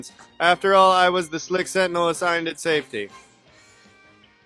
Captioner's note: increasingly unenthusiastic